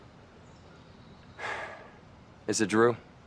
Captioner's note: Cameron sighs